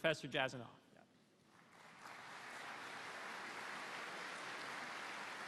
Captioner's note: applause